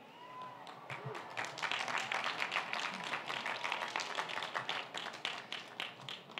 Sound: audience applauding and cheering

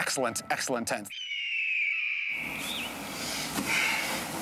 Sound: bird cries

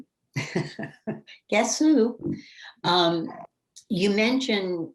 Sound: laughs

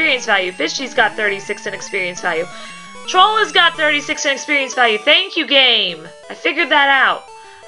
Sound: sarcastic

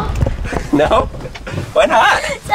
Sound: laughs

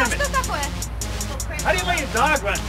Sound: speaks in Russian

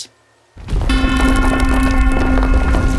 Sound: rumbling

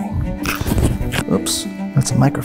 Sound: microphone crackles

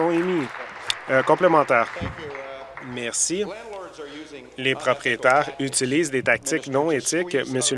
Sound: applause

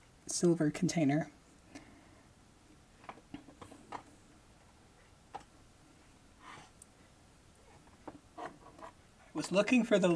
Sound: chair creaking

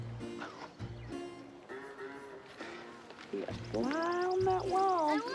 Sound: laughs

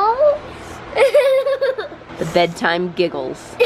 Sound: laughing

